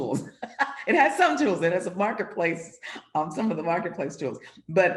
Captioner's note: laughs